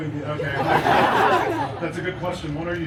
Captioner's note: guests laughing